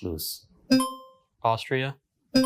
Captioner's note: buzzer rings